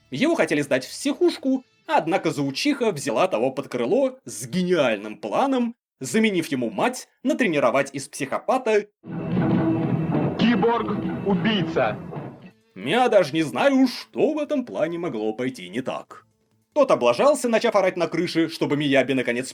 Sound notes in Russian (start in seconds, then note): 10.6 Голос с VHS кассет